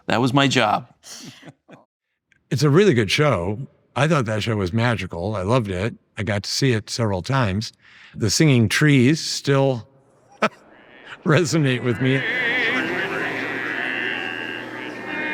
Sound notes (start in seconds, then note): 1.2 laughing; 10.2 laughing